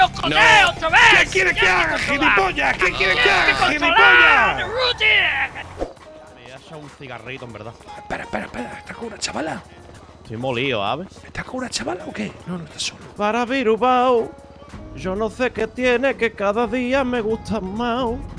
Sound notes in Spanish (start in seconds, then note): 6.6 acento malagueño; 13.2 canta